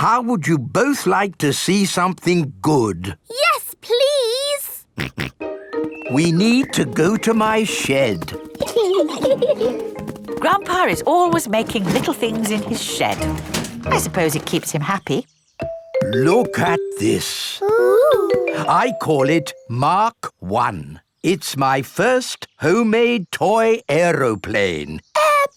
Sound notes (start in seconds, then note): 5.0 snorts; 8.6 giggling